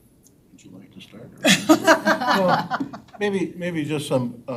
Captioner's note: all laughing